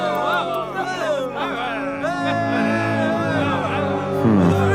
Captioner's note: cheering